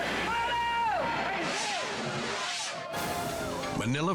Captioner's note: people shouting